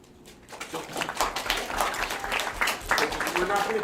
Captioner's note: attendees clapping loudly